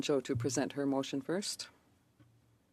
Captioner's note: speaking French